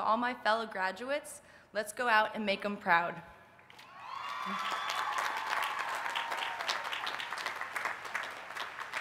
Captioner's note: applause